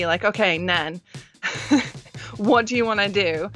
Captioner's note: laughs